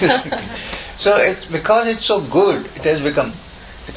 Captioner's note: laughter in the audience